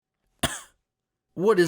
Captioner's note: cough